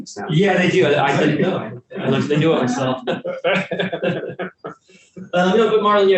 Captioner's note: panelists laughing